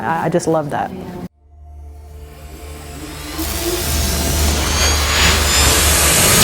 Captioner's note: crescendo of futuristic sounds